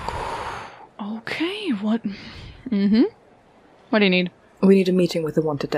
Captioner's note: exhales